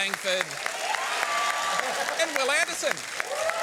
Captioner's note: applause